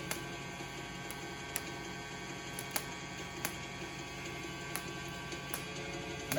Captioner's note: whirring and popping